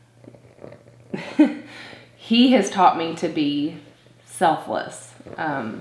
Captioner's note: laughs